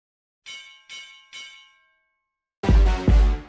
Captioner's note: bell ringing; upbeat music